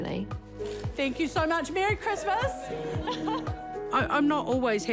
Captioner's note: chuckles